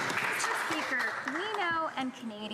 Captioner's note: some Applause